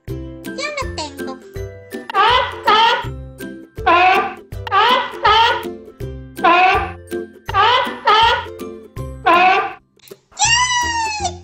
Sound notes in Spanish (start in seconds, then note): 2.1 Sonido foca